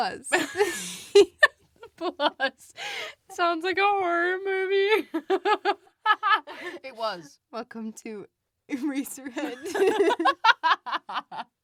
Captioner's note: both laugh; both laugh